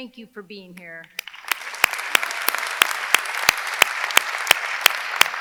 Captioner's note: audience clapping